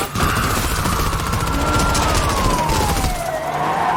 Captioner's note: siren blaring